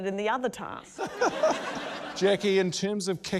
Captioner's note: laughter